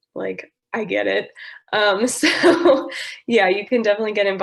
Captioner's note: laughter